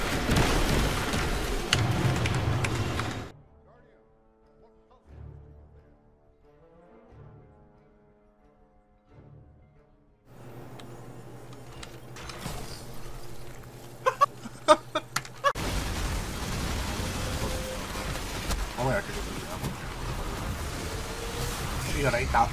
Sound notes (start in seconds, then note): 1.4 typing; 13.9 chuckling